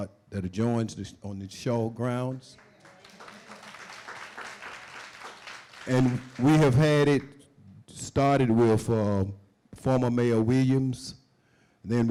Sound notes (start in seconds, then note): 2.5 applause